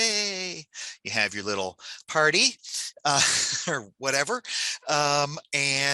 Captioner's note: chuckles